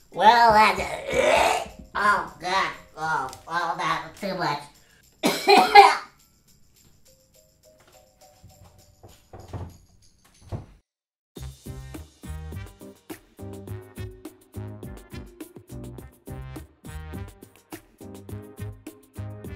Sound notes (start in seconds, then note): 0.2 gags; 5.2 coughs